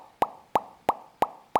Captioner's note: popping